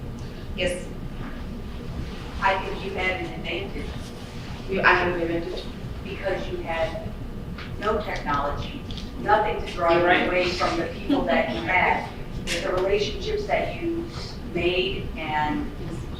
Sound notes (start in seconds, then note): 10.2 chuckles